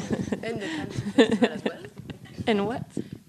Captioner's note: laughs